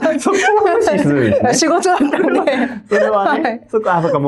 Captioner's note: laughs